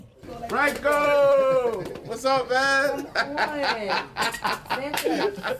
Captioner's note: laughs